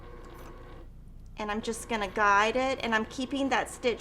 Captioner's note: sewing machine whirring